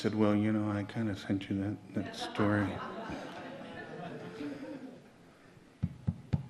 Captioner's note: audience laughs